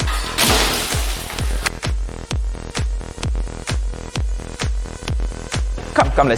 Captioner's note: ceiling smashing